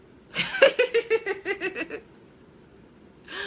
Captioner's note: laughing